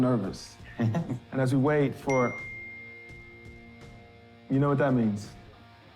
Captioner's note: phone chimes